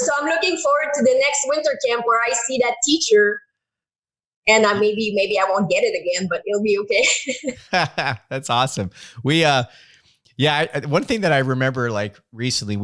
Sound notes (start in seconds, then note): 7.0 laughing